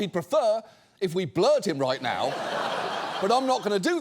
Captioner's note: audience laughs